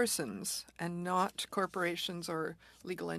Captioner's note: speaking French